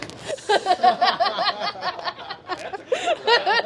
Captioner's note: laughs